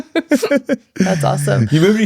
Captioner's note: laughing